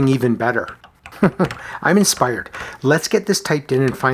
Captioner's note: chuckles